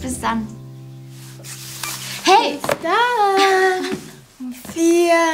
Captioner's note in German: nachäffend